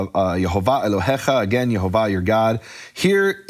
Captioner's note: speaking foreign language